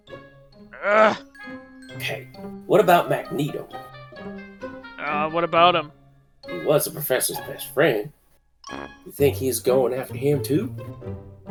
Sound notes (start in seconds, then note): 0.8 Cyclops growls